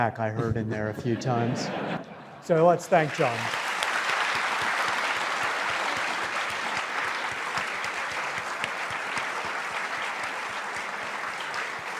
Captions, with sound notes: I heard in there a few times, so let's thank Jon. (audience laughs and applauds)